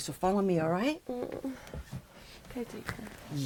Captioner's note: Julie groans